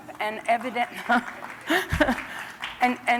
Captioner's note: applause